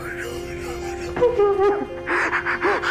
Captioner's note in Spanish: Sollozos